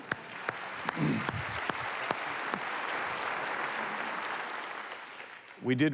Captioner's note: applause